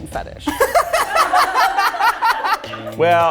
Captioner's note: Zach laughs